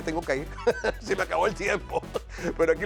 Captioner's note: laugh